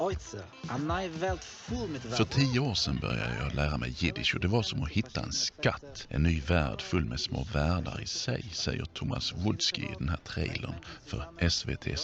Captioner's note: Swedish